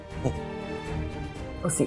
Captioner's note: chuckling